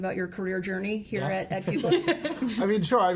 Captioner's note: laughs